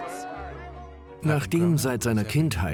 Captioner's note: voiceover